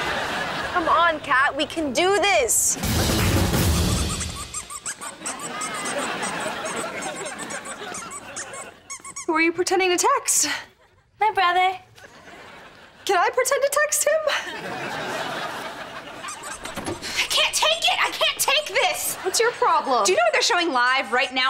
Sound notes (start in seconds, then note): 3.6 squeaking; 16.2 squeaking